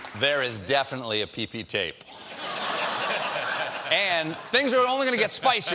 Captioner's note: laughter